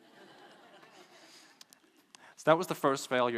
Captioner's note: laughing